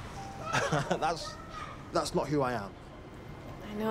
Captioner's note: laughs